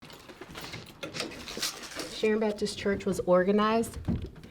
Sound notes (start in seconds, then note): 0.0 keys clattering; 1.0 door squeaks